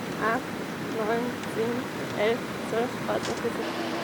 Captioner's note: counting